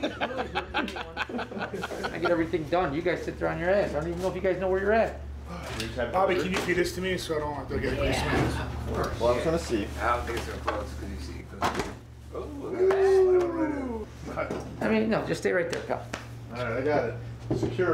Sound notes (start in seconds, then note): 0.0 laughing; 9.5 chatter